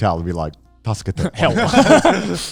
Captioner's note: speaking in foreign language